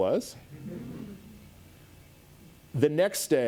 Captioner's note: audience laughs